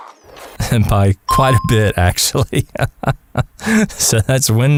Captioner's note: haha